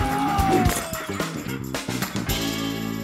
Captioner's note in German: Klirren